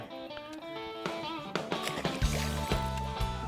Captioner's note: upbeat country rock music; water splashing; upbeat country rock music